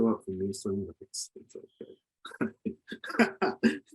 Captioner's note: laughs